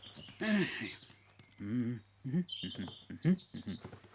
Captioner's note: Mr McGregor humming